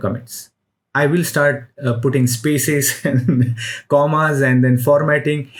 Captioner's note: chuckles